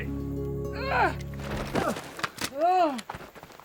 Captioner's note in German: Stöhnen